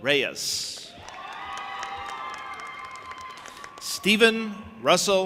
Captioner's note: audience applauding and cheering